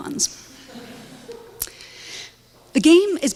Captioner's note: audience laughs